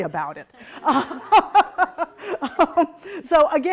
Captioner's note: laughing